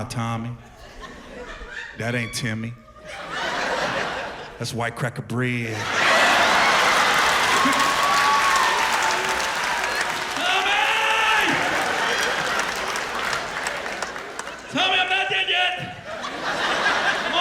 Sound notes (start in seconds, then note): 7.8 laughter, cheers and applause